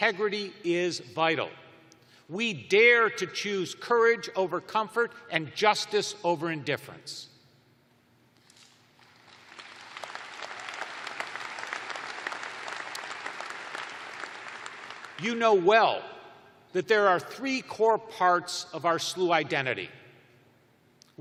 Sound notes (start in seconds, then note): 6.1 applause